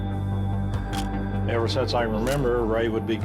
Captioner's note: camera shutter click